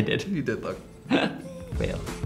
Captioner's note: laughing